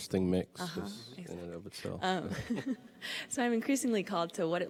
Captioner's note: giggles